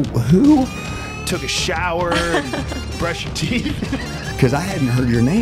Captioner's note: laughter